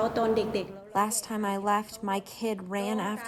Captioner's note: through translator